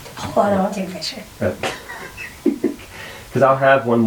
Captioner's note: laughing